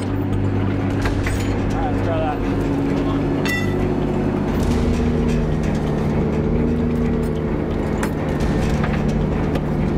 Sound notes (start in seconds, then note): 3.9 truck engine roaring